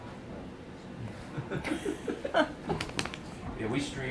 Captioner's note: laughing